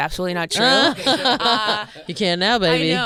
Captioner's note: Fortune and Tom laughing